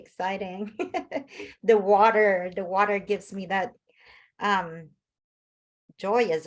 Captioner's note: laughs